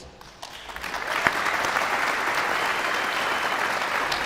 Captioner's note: guests applauding